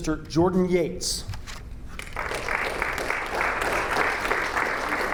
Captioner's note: audience applauding